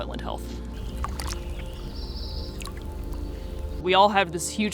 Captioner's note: waves crashing